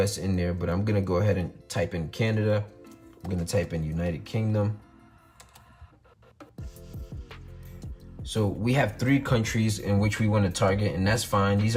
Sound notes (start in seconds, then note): 5.3 keyboard clicks